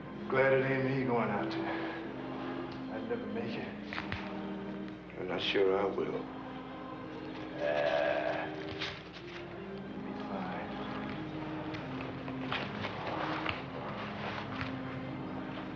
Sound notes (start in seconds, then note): 7.0 scoffs